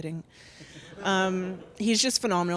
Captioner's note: audience chuckles